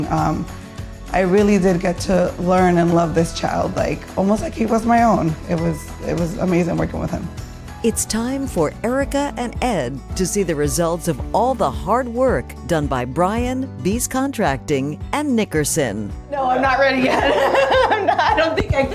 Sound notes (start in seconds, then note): 16.8 laughs